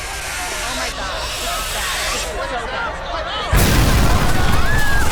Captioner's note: panicked crowd; explosion